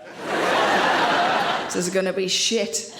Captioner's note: audience laughs